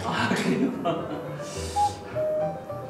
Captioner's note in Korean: 웃음